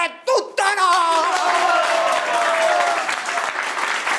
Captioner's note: crowd cheers